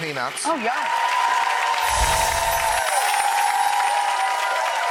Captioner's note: applause